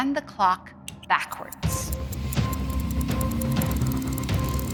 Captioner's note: button clicks, stopwatch ticking